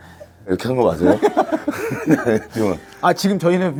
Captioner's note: haha